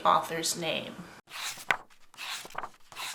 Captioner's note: pages turning